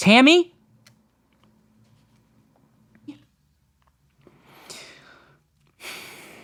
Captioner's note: SFX: A slow HISS swells